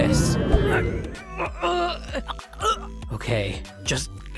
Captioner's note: gagging